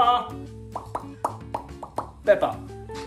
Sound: popping sound

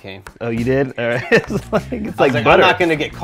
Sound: laughs

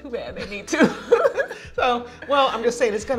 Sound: laughing

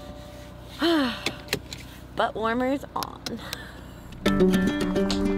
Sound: seatbelt snapping; light guitar music

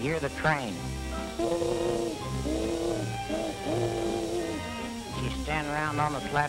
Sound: train whistle

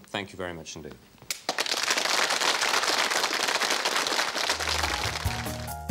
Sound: applause

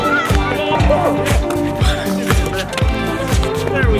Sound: cheers

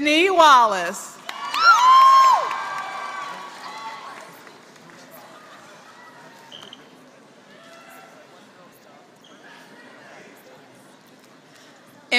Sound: applause

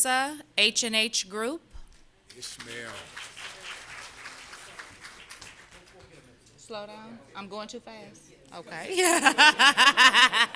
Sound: applause

